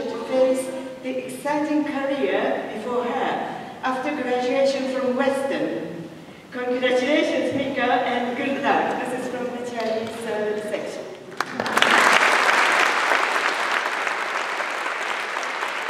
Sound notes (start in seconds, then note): 11.3 applause